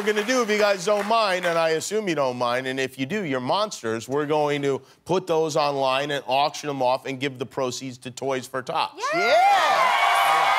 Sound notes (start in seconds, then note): 0.0 cheers and applause